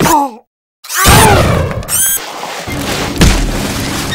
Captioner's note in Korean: 철푸덕